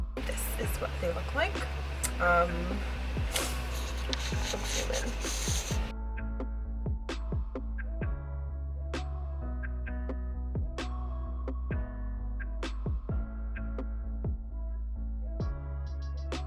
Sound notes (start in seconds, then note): 3.3 breathes in deep